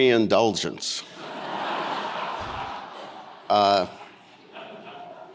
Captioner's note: audience laughing